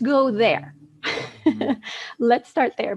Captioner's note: laughs